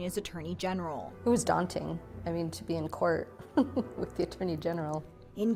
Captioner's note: laughter